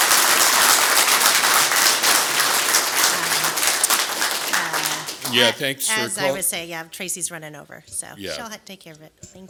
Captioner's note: applause